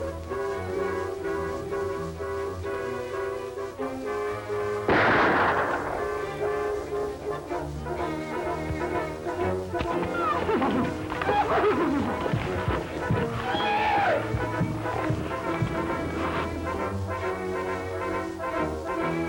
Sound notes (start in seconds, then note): 4.8 gunshot; 10.1 neigh